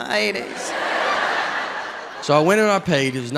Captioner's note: audience laughs